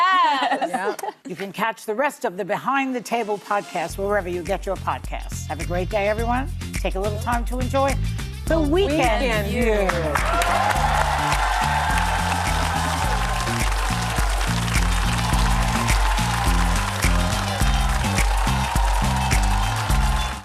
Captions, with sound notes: Yes! You can catch the rest of the Behind the Table podcast wherever you get your podcasts. Have a great day, everyone. Take a little time to enjoy The Weekend View. (audience cheering) (upbeat music) (audience cheering)